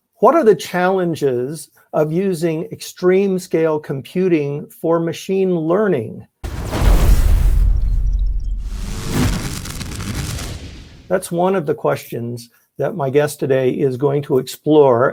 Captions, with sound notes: - What are the challenges of using extreme scale computing for machine learning? (thunderous electronic rumble) That's one of the questions that my guest today is going to explore at an upcoming workshop